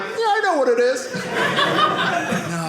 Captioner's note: audience laughing